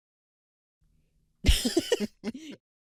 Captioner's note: laugh